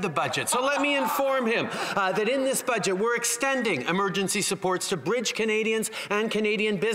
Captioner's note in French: voix de l'interprète